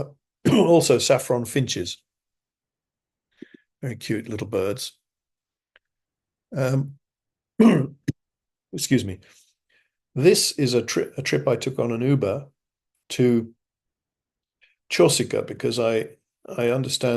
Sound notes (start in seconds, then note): 7.6 cough